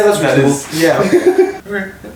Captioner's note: laughs